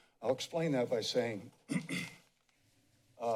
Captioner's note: clears throat